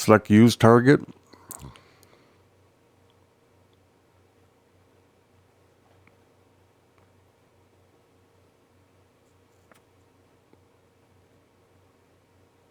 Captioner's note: silence